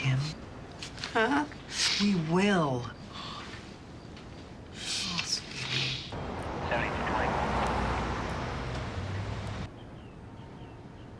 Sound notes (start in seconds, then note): 0.2 voice breaking; 2.4 sniffs